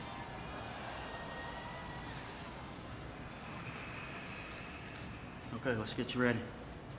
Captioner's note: crowd chatter